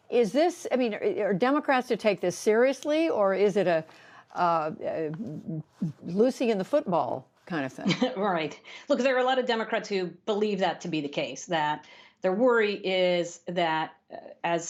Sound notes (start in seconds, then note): 7.8 laughter